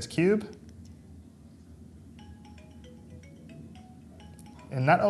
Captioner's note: tracker sound